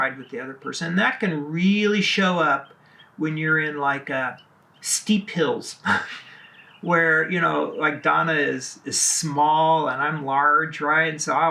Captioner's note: laughs